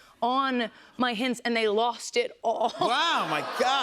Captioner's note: laughs